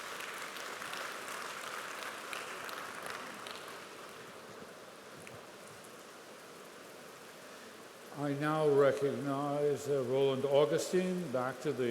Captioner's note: applause